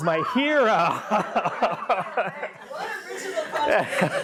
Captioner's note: everyone laughs